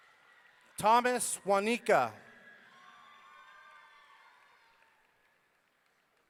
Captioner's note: audience cheering